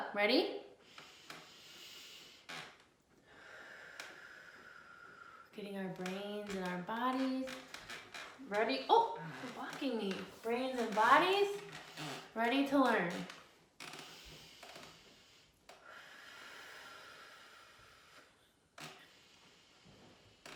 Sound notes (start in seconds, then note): 1.2 breathing deeply; 13.9 breathing deeply